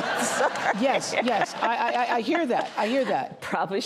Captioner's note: laughter